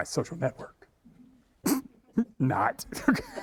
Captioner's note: chuckling; all laughing